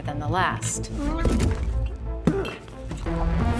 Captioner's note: Bertha grunts